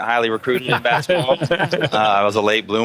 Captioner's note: laughing